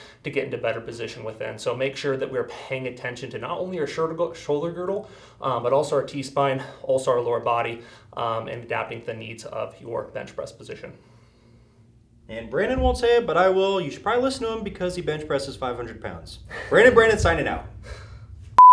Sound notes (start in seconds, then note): 16.8 chuckles